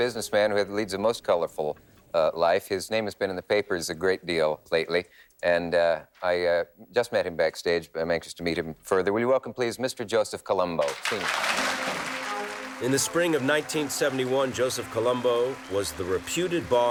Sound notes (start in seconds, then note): 10.8 audience applauding